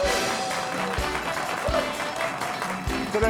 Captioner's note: audience clapping